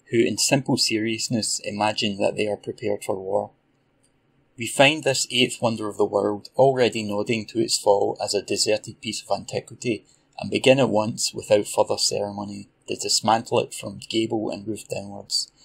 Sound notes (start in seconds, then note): none